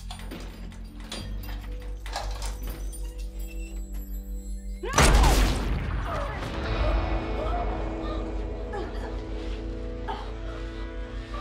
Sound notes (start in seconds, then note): 5.0 gunfire; 6.2 Rowena gasping